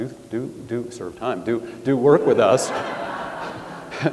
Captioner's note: chuckles; audience laughs